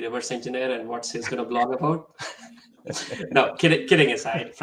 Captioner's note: chuckles